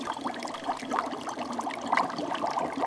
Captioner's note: bubbling